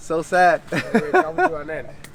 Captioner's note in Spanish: risas